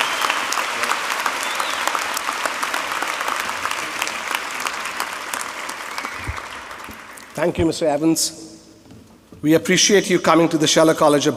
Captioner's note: applause